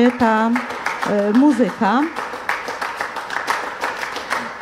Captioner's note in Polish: Aplauz